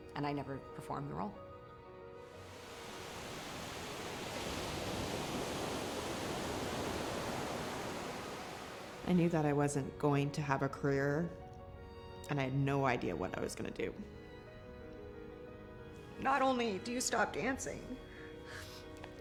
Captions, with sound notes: and I never performed the role. (dramatic piano music) (waves lapping) - I knew that I wasn't going to have a career, and I had no idea what I was gonna do. - Not only do you stop dancing,